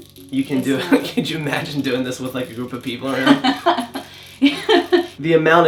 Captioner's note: scratching/crackling sound